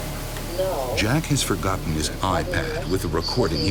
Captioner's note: voiceover